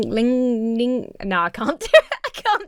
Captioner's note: laughs